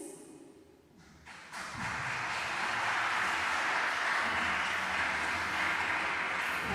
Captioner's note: applause